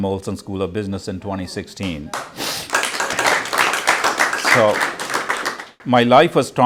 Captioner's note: applause